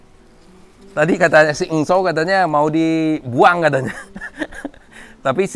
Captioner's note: laugh